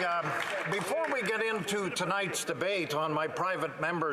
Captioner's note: some Applause